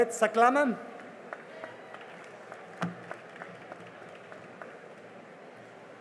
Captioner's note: cheering and applause